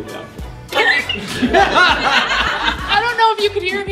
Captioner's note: laughter